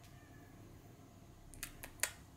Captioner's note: cat meowing